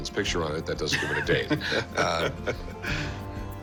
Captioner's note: laughs